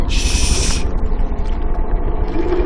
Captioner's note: gasps